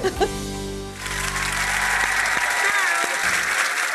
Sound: audience applause

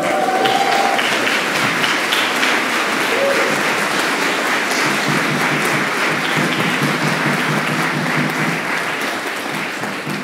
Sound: applause

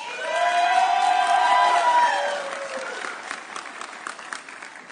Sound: audience cheering

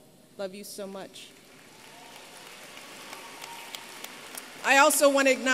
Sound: applause

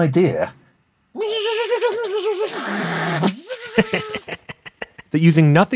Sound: making computer sounds; laughs

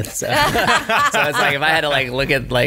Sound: laughs

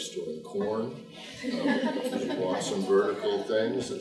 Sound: group laughing

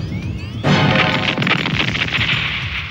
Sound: explodes

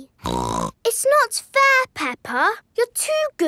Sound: snorts

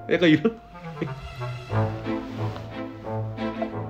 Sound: laughing

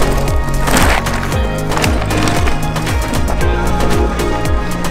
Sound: bike crunching on dirt

